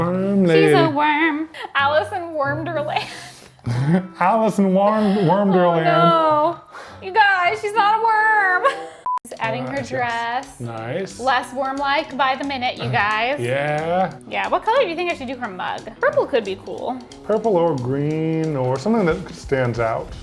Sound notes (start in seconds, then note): 3.6 laughs; 9.0 screen beeps